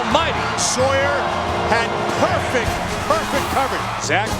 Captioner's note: voiceover